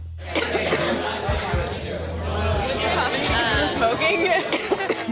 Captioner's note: customer coughing